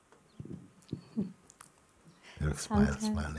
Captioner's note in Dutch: lacht